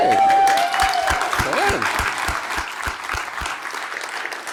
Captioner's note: applause